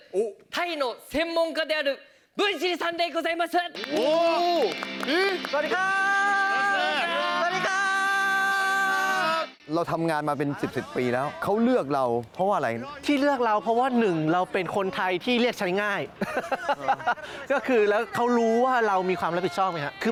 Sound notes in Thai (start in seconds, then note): 16.1 เสียงหัวเราะ